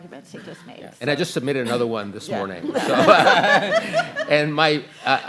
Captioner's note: laughs